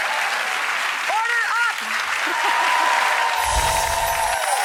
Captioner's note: laughs